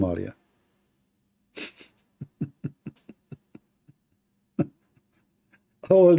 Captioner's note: Ketawa